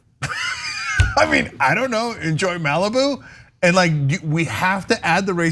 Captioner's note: laugh